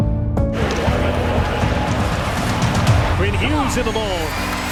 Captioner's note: crowd cheering